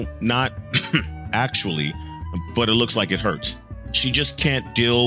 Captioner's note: cough